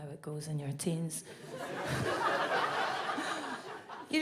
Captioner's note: audience laughs